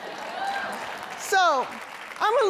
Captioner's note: laughter; applause